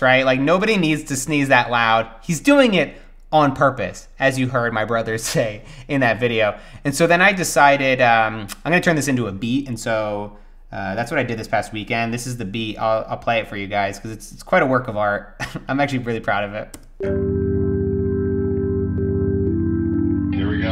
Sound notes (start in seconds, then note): 15.4 laughs; 17.0 gentle music